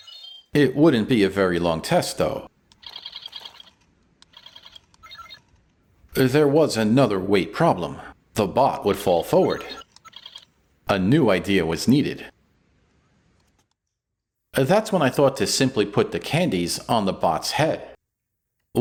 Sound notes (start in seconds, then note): 2.7 ROBOT ClICKING!